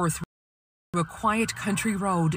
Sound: sirens

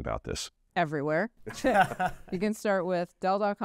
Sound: chuckle

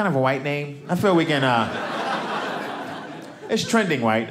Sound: audience laughing

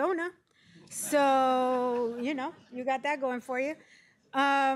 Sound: laughter

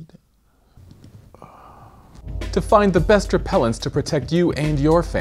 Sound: sighs

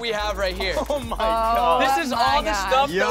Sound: laughing

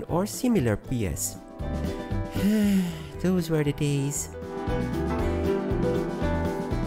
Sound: sigh

